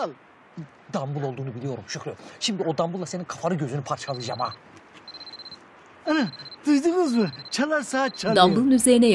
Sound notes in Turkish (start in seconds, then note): 5.1 Zil sesi